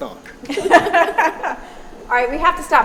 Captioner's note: laughing